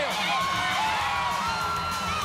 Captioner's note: crowd cheering